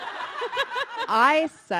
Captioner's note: audience laughing